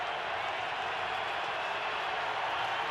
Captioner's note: crowd cheering